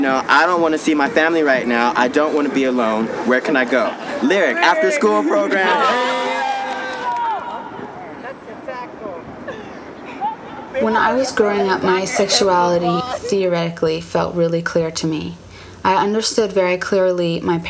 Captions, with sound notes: Lyric after school program, hey. (group chattering) - That's a tackle. - When I was growing up, my sexuality theoretically felt really clear to me. I understood very clearly my parents' sexuality, and I understood very clearly that I was straight,